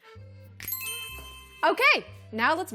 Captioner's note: twinkle